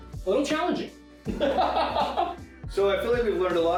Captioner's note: laughing